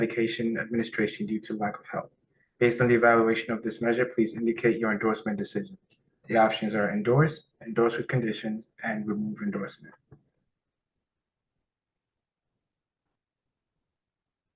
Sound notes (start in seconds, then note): 13.3 pause